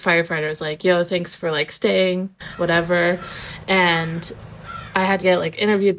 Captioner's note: crow cawing